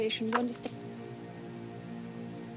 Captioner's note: click